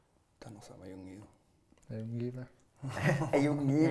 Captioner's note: laughs